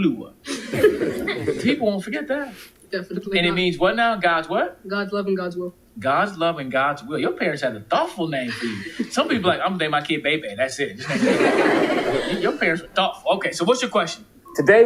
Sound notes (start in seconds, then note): 11.0 audience laughing